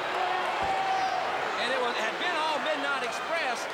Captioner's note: crowd chatter